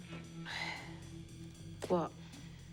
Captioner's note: Eunice sighs